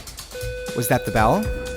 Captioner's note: school bell tone